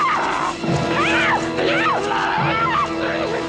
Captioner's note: screaming; screams